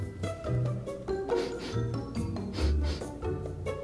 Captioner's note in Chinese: 嗅聞聲